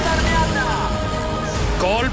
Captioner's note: Kart sound